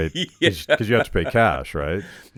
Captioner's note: laughing